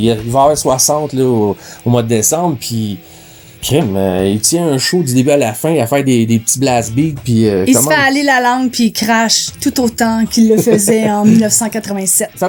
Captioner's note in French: rires